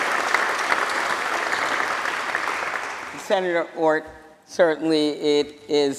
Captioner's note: applause